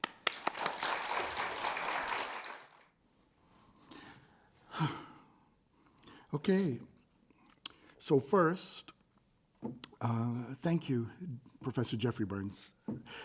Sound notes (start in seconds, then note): 0.0 audience applaud; 4.6 deep sigh